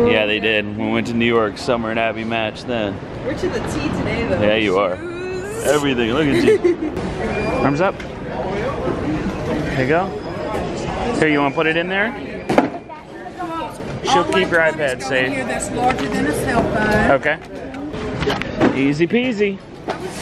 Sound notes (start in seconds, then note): 7.1 laughing